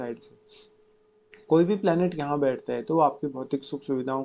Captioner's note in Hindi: नाक से की जाने वाली आवाज़